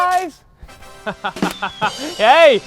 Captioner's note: laughs